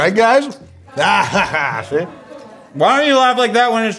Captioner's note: laughing